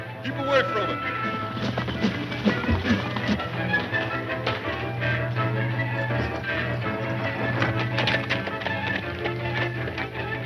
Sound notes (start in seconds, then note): 2.0 horses galloping; 3.9 dramatic music